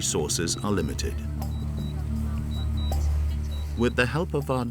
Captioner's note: drone beeping